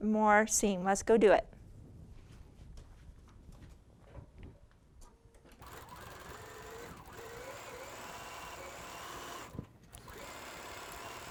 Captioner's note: sewing